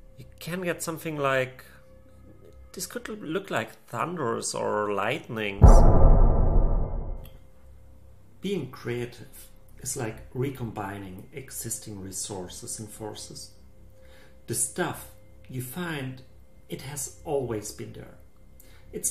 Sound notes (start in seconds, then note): 5.6 thunder sound